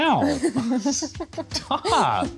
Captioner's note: laughing